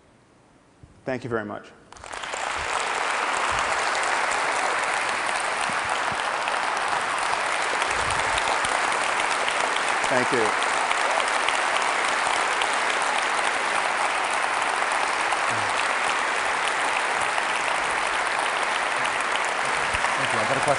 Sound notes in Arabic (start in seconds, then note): 2.1 تصفيق